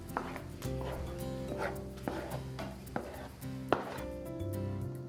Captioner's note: spoon scraping on bowl; gentle guitar accompaniment